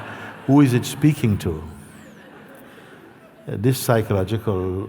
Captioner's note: laughter